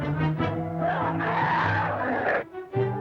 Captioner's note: growling